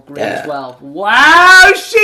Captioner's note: loud, impressive burping